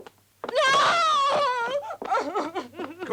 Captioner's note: sobs